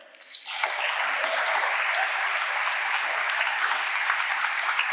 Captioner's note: audience applauding